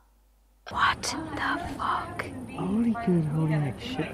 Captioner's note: whispers